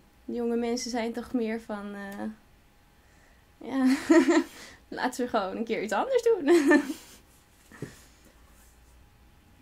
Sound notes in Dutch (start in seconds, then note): 3.7 lacht; 6.7 interviewer grinnikt